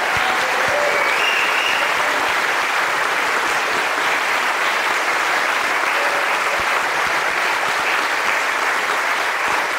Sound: applause

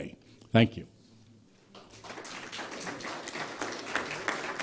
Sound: applause

